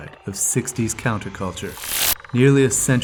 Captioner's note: electricity buzzing